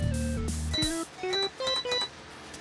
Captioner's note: beeping